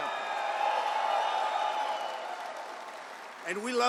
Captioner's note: applause